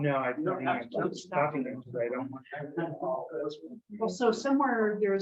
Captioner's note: members chattering